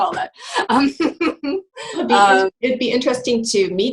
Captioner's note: laughing